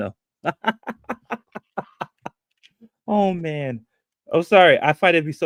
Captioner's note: laughs